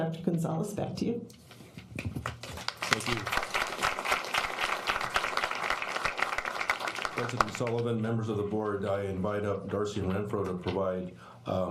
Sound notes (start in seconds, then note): 5.0 applause